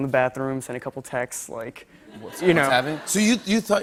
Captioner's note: laughter